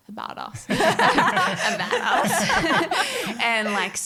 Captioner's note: all laughing